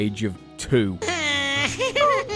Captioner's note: crying